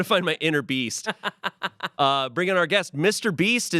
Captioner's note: Amanda laughs